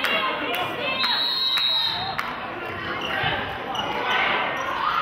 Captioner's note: whistle blows